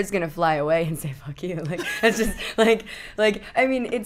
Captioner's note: laughing